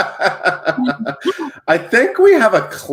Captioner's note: laughs loudly